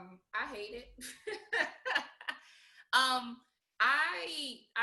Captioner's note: laughing